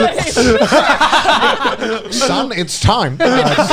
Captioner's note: laughing